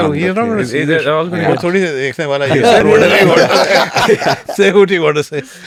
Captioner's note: laughs